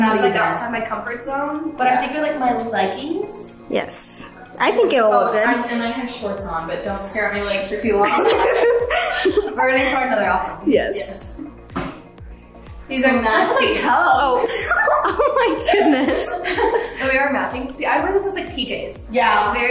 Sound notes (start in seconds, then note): 8.0 girls laugh